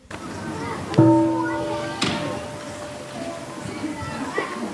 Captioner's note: gong